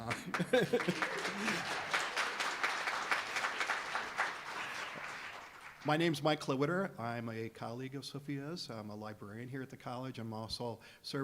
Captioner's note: applause